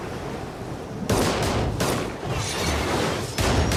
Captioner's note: gunshots